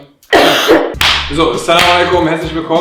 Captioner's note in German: Sie hustet